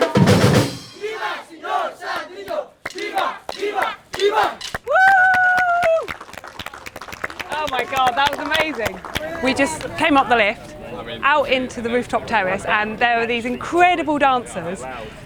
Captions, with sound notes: (Chanting in local language) Wooo! Oh my god, that was amazing. We just came up the lift, out into the rooftop terrace, and there are these incredible dancers.